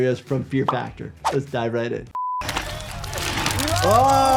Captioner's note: beep